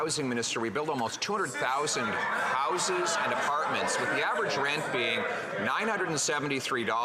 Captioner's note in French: voix de l'interprète